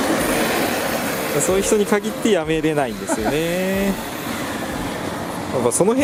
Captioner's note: laughs